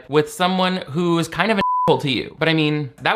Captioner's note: beep